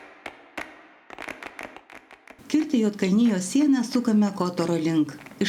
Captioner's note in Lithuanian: Plojimai